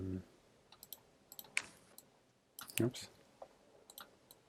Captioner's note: mouse clicking